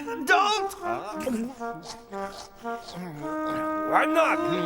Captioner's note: Napoleon chomping